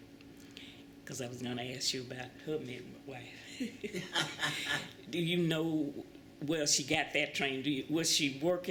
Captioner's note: laughter